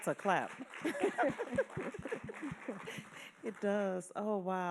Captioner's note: laughing